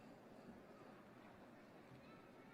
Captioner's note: none